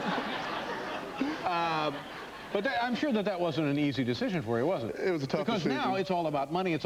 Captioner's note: laughter